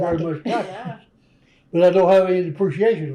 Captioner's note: laughs